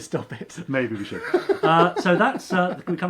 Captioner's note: laughs